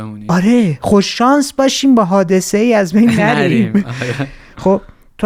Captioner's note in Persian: خنده